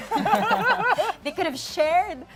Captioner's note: laughter